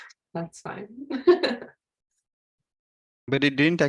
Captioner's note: laughs